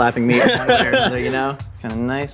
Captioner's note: laughing